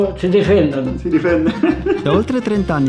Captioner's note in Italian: risate